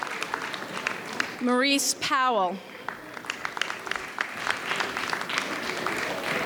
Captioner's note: audience applauds